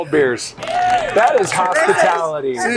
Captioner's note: cheers